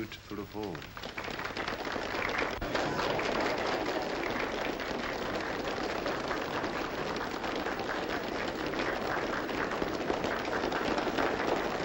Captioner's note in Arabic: تصفيق